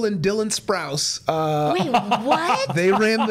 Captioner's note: laughing